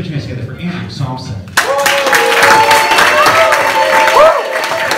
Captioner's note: applause